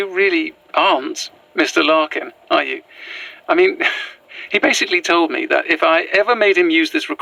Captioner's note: she laughs